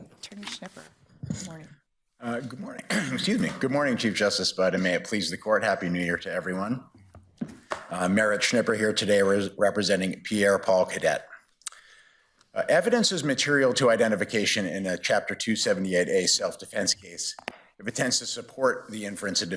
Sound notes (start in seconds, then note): 2.8 coughs